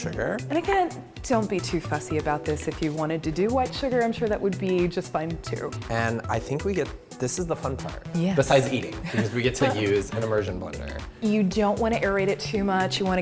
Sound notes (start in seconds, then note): 9.0 laughter